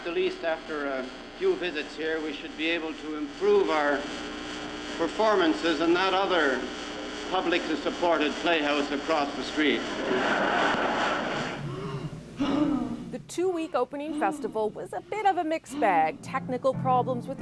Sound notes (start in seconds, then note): 10.0 laughter